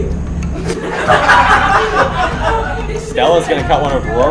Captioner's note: everyone laughing